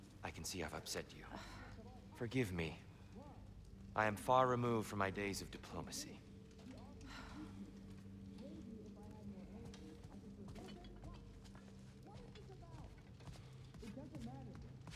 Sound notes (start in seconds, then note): 7.1 sigh